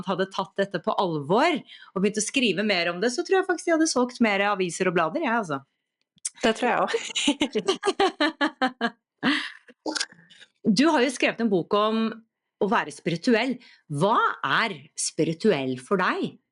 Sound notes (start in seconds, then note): 6.9 laughs